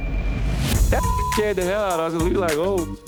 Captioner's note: beep; eerie music